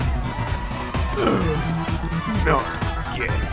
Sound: hearty Sigh

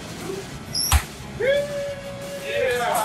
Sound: celebratory whooping

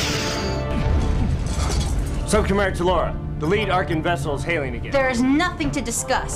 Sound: explosion

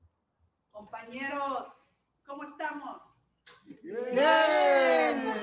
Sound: woman 2 speaking in foreign language; all speaking in foreign language

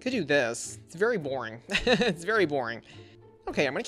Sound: laughs

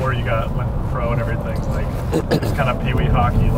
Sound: clears throat

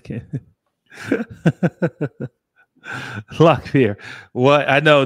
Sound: laughs

